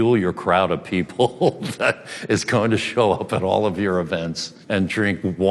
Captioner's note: laughs